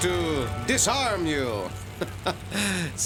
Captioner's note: chuckling